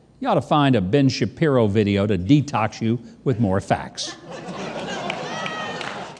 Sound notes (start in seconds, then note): 4.0 audience laughing